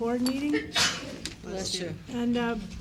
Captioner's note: sneeze